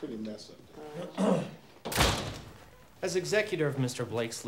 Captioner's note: attorney clears throat